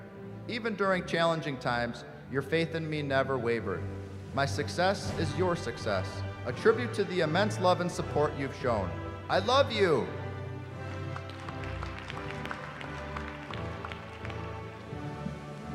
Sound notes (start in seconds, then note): 10.6 applause